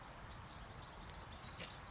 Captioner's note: birds chirping